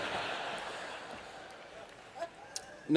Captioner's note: laughter